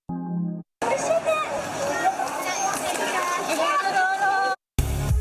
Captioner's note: foreign language